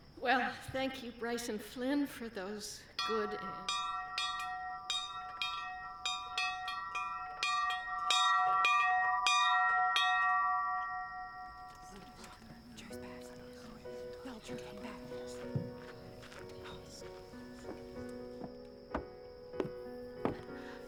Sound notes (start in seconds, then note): 3.0 bell ringing; 12.1 whispering